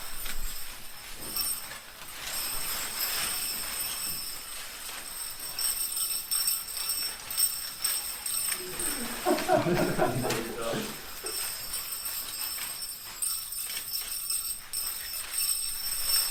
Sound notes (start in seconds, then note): 8.6 laughter; 10.7 bells ringing